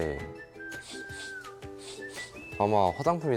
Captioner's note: sniffing